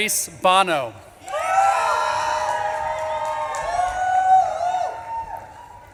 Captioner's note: audience claps and cheers